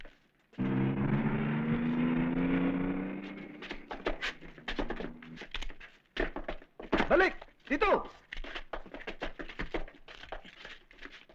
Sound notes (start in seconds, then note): 7.1 non-english speech